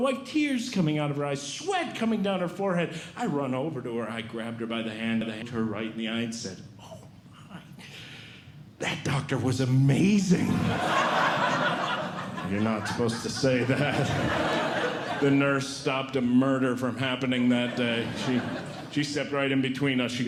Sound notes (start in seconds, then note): 10.6 audience Laughing